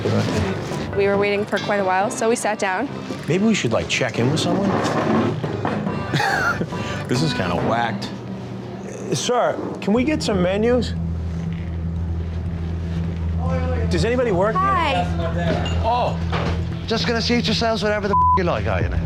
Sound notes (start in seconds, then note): 6.0 laughs; 11.9 suspenseful music; 18.1 beep